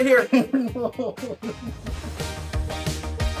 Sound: laughing

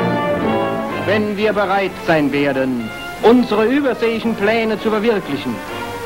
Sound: man speaking in foreign language

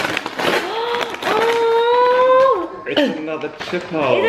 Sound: gasps

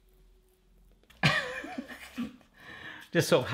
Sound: laughter

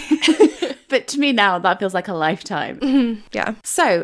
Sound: laughing

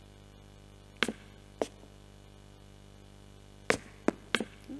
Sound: footsteps

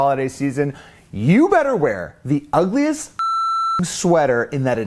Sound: beep

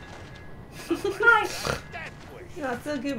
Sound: snort

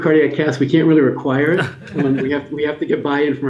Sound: laughter

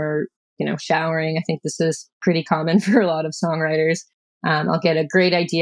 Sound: laughter

